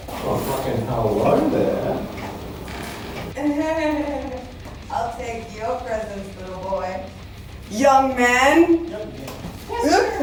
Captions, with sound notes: - Oh, freaking hello there! - (Giggles) I'll take your presents, little boy Young man